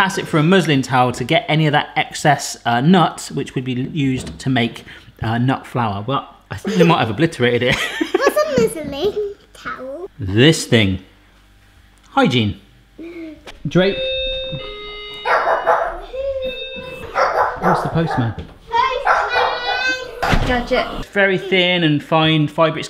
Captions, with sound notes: Press it for more power to get any of that excess nuts which can be used to make nut flour. I think I might have obliterated it. (laughing) This thing. Hygiene. (doorbell) (dog barking) It's the postman. - Got it. It's very thin and fine fibre.